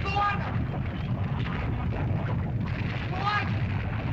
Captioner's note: lava bubbles & flows